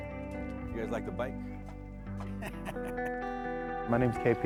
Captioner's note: laughing